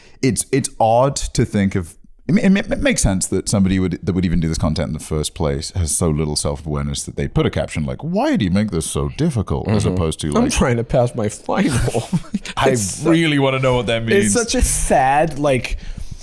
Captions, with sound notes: It's odd to think of... It makes sense that somebody that would even do this content in the first place has so little self-awareness that they put a caption like "why'd he make this so difficult," as opposed to – (whiny) "I'm trying to pass my final." - I really wanna know what that means. - It's such a sad, like...